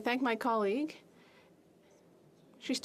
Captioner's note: speaking French